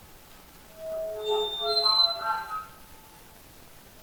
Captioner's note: high pitched tone plays